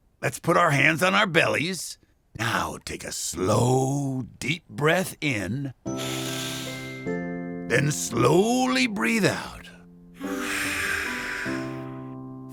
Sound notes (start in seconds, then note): 5.9 breathes; 10.2 exhales